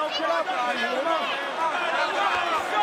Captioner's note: crowd cheering